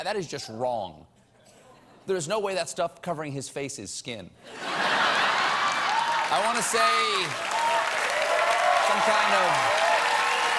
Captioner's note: laughter